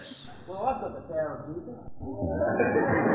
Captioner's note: audience laughs